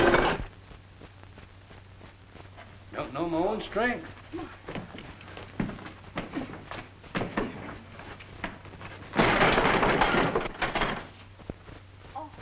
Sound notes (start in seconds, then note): 0.1 metal thudding; 6.4 door thudding; 9.3 door thuds